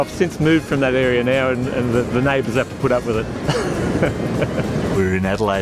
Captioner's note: laughs